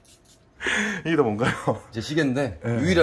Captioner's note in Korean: 놀람